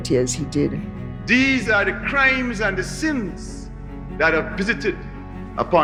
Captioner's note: soundbite of archived recording